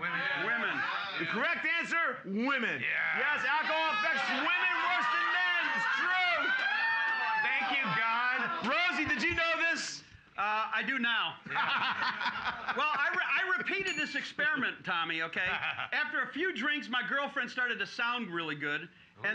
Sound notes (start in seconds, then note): 0.0 audience shouting; 3.1 audience shouting; 6.5 cheers and applause; 11.4 loudly laughing; 13.8 bell softly chimes